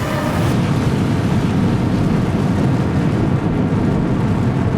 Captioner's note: rocket roaring